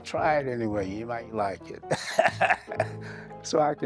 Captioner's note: laughing